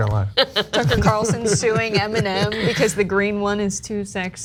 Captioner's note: laugh